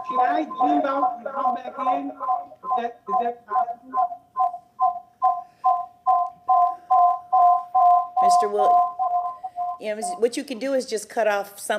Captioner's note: audio echoing